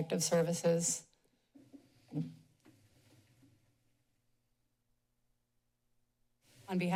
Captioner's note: pause